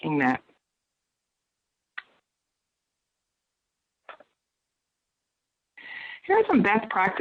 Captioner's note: silence